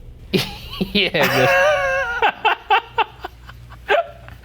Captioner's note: laughing